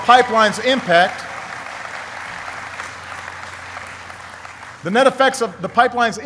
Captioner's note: applause